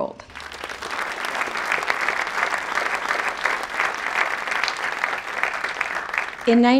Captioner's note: applause